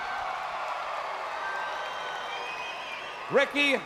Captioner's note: crowd cheering